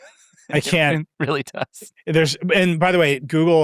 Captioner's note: laughs